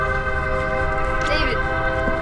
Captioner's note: train whistle